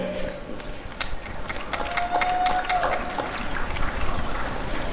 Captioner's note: applause and cheering